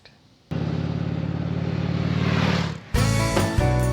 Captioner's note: motorcycle engine revving; bright uplifting music